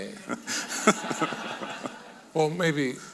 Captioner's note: audience laughing